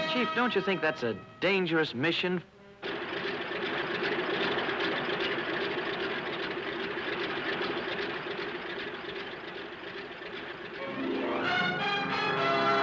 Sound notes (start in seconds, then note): 3.0 propellers whirring; 10.6 determined music; 12.6 plane engine buzzing